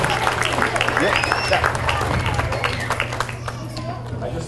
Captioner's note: audience applauds